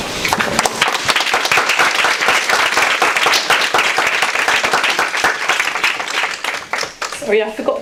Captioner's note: audience applause